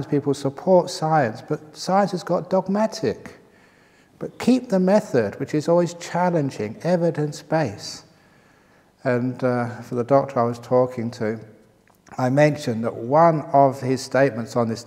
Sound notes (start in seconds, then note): none